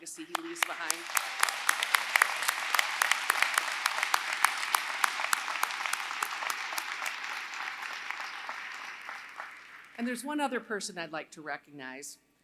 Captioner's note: applause